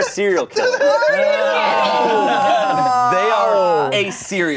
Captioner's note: laughing